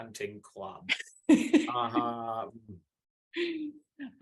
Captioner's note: laughs